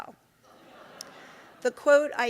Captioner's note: audience laughing